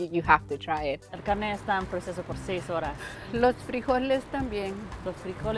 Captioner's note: women speak Spanish